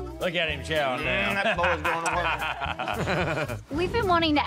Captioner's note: laughter